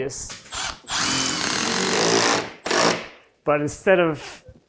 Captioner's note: drill whirring